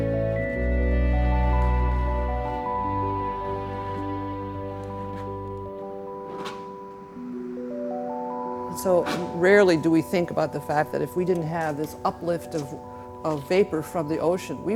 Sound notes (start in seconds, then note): 6.0 scrape